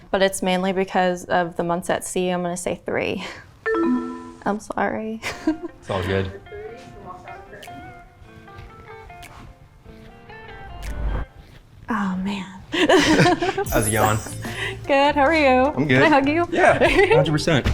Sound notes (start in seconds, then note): 5.3 chuckles; 6.6 soft beat; 12.7 both laughs